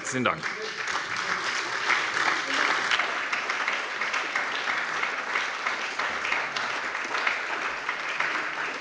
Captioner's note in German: Beifall bei der SPD